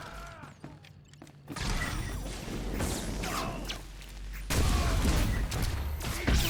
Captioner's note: gunshots